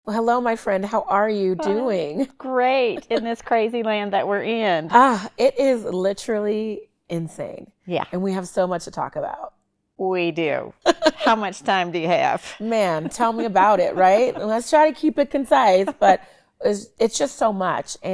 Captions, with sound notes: Well, hello, my friend, how are you doing? - Great, in this crazy land that we're in. - (sighs) It is literally insane. And we have so much to talk about. - We do, how much time do you have? - Man, tell me about it, right? Let's try to keep it concise, but it's just so much,